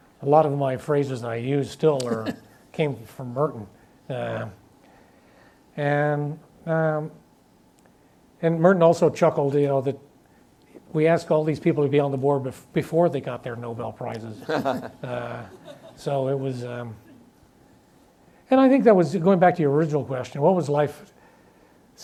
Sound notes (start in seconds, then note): 17.2 audience laughs